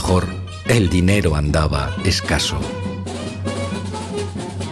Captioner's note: none